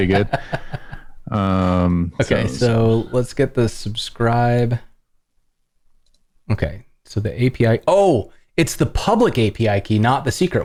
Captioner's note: laughter